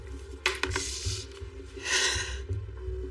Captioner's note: sighs